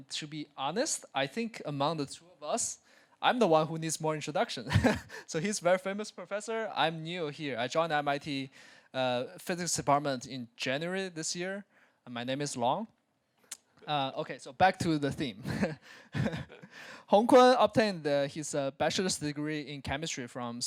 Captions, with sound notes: To be honest, I think amongst of us, I’m the one who needs more introduction. [chuckles] He’s a very famous professor. I’m new here. I joined the MIT Physics department in January this year. My name is Long. Back to the theme. [laugh] Hongkun obtained his bachelor’s degree in chemistry from